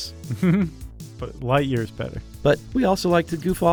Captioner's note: chuckles